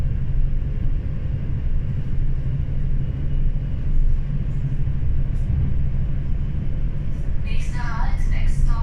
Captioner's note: train traffic